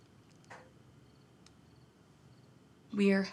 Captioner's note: none